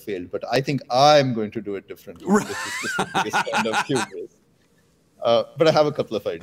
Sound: laughter

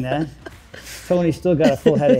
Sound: laughs

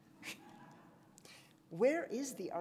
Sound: laughs

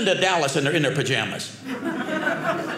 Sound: audience laughing

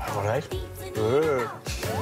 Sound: imitates shin-chan

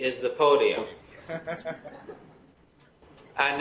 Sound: laughing

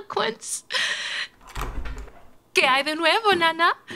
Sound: door opening

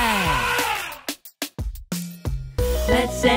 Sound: animal sound: elephant trumpet

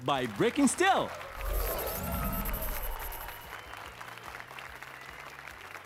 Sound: applause and cheers

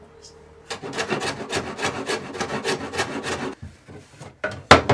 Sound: loud scraping

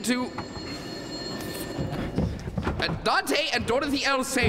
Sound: phone ringing

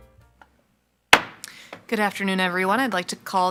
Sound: gavel thwacks

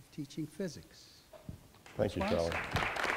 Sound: clapping

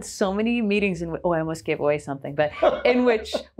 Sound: laughing

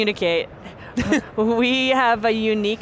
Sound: giggles

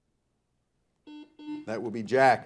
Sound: buzzer buzzes

